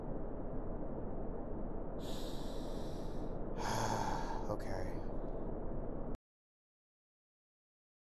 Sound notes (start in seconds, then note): 3.5 sigh